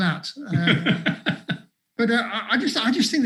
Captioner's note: laughs